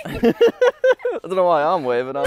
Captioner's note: laughs